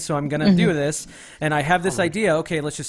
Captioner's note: none